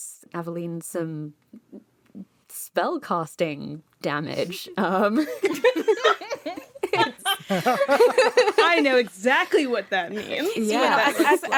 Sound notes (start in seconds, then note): 5.1 laughter